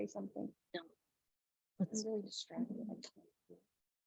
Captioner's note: soft chattering